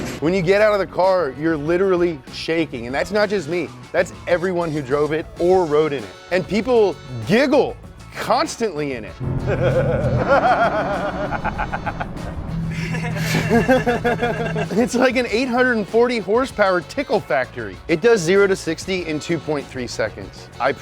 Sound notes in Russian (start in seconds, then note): 9.4 Хихикает